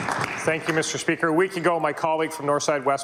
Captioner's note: applause